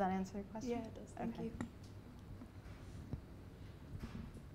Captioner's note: voiceover